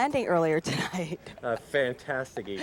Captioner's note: laughs